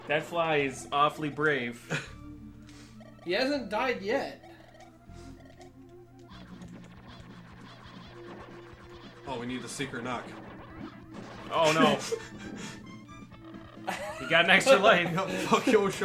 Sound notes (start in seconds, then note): 4.3 vibrates wildly